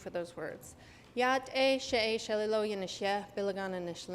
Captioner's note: non-english; non-english speech